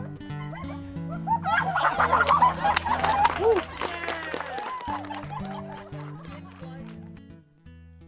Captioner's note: laughter and Clapping